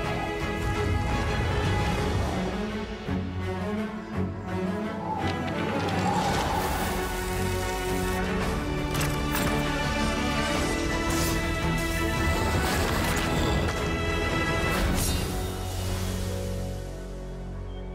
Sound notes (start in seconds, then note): 4.0 wind howling